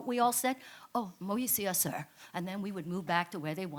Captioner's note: speaks in foreign language